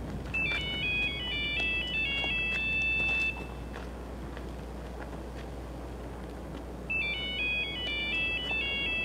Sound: cell phone rings

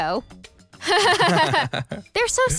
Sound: laughs

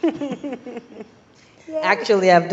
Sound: laugh

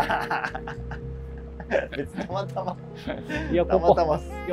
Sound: laughing

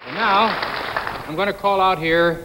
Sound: audience applauding

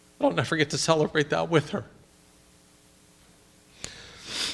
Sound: sniffs

